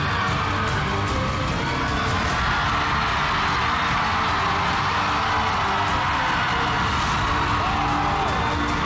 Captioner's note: crowd cheering, applauding